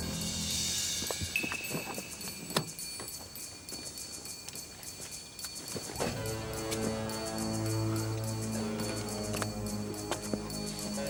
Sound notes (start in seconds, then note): 1.7 car door clicks